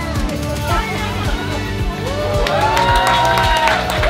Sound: crowd cheering

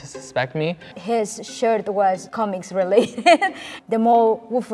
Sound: laughs

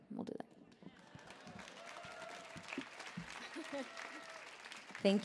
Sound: audience cheering

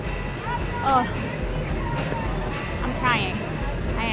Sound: exclaims

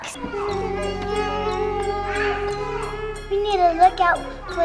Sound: girls laughing

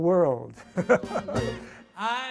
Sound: laughs

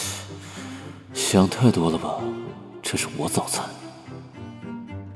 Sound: sighs

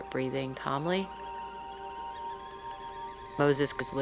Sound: tea kettle whistling

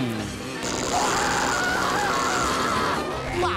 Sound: screaming

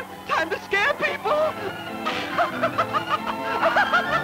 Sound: laughs maniacally

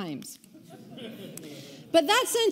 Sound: audience laughing

